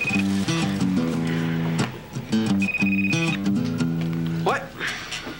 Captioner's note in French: Le téléphone sonne